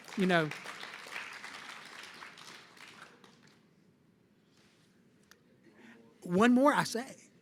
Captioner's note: applause